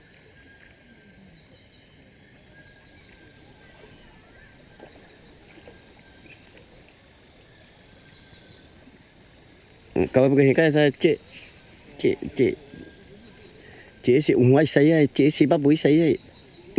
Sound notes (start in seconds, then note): 10.4 speaking in foreign language